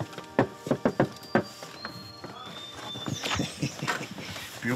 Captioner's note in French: coups à la porte